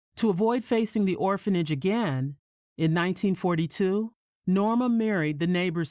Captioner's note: none